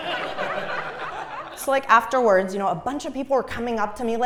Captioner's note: laugh